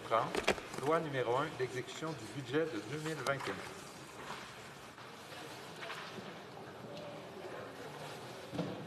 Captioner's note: speaking french